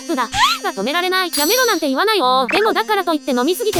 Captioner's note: monotone